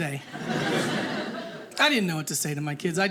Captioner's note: audience laughing